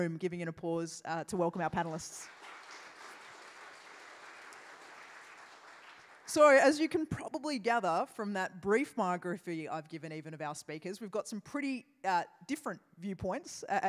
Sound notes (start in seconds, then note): 1.7 applause